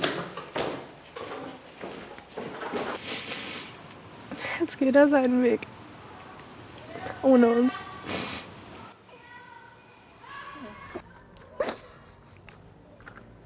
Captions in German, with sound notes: Jetzt geht er seinen Weg. Ohne uns. (weint)